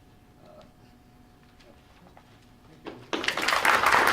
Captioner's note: applause